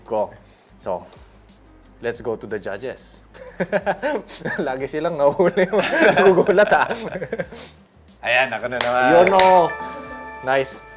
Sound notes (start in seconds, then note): 3.4 laughs